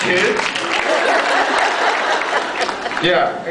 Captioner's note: applauds; laughs